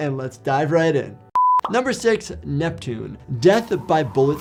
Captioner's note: beep